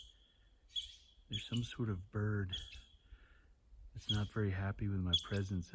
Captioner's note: extremely loud sharp shrill rhythmic chirping